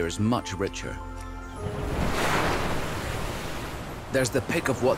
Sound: waves crash

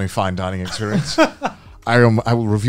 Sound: laughing

